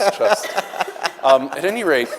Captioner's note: everyone laughing